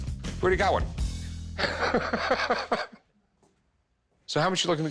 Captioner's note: laughing